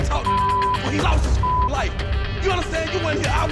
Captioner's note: beeping